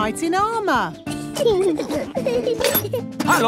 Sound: children giggling

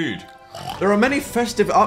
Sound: dragon chomps

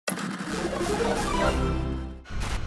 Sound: electronic beeping

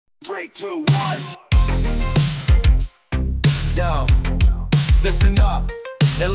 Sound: inhales

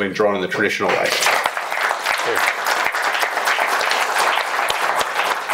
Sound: crowd applauding

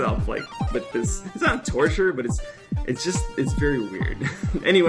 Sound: laughter

